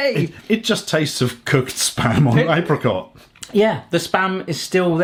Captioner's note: laughing